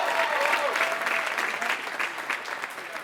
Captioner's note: applause